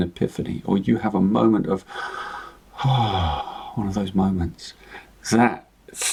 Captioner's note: sighing